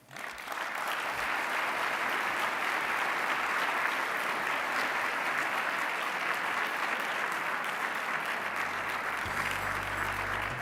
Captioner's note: applause